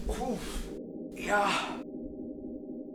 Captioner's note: grunts